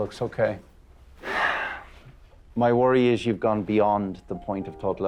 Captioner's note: sighs